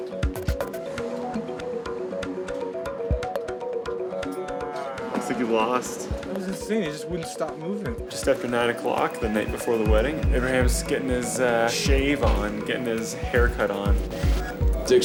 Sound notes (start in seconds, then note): 1.2 whirring